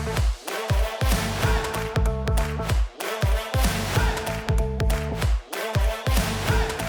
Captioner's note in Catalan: Aplaudiment